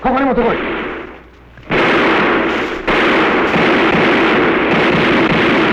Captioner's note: non-english speech; gunfire